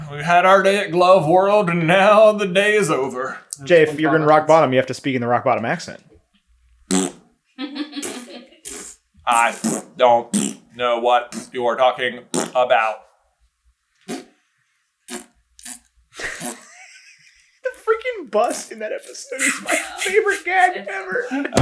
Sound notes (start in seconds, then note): 8.6 plbbtt; 10.3 pbbbbllt; 10.3 pbblt; 10.3 plbbt; 13.3 pbblt; 16.2 giggling